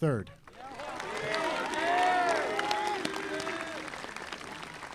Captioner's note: audience applauding